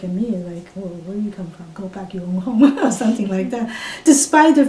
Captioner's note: laughs